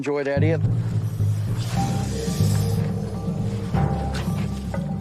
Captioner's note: snake hissing